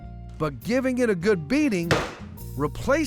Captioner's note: pounding sound